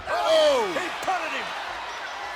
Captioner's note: Ted exclaims